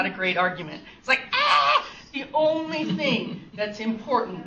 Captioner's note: fake screams